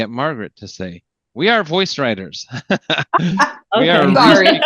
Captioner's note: chuckling; laughs